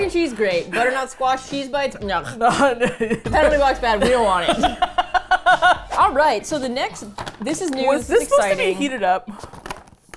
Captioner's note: both laugh; laughs